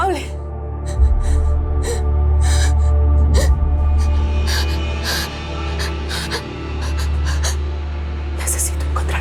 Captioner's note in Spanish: Sollozos